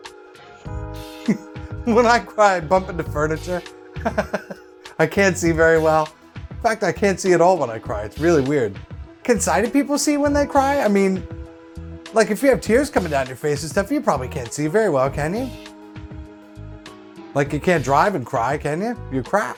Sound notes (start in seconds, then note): 0.3 chuckles; 4.0 laughs